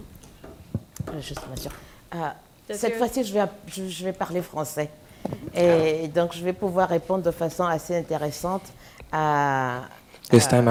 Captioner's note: french